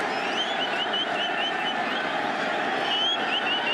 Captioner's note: whistle